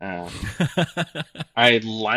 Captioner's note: laughing